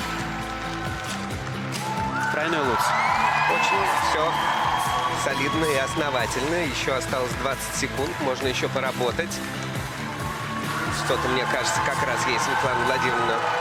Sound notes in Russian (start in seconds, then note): 3.2 ликование